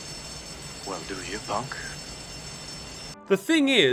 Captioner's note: alarm blaring